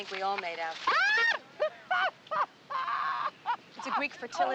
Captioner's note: laughing